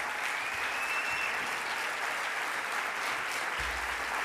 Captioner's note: audience applauding